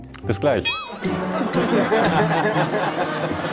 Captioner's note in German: Lachen, Flirrende Musik